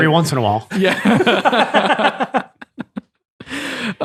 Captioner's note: all laughing